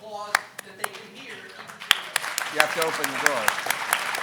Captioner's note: audience applauding